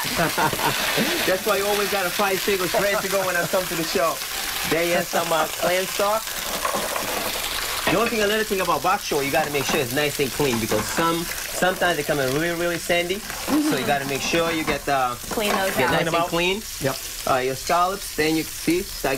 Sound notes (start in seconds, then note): 2.4 sizzling